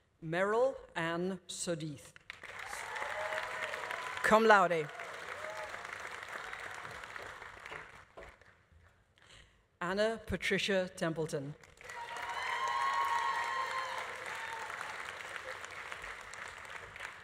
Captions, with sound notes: Meryl Ann Sudeith. (audience applauding) (audience cheering) Cum laude. (audience applause continues) (audience cheering continues) Anna Patricia Templeton. (audience applauding) (audience cheering)